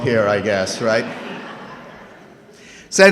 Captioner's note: laughing